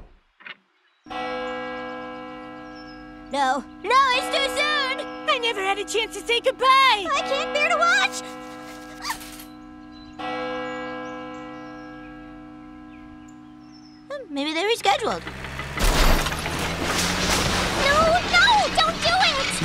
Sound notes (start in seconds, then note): 0.8 bell tolls